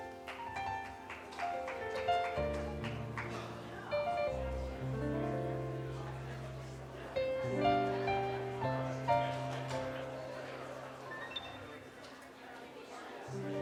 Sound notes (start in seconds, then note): 0.0 audience applauding; 3.5 relaxing piano music; 8.7 crowd chatting